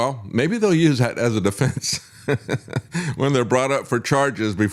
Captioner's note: laughs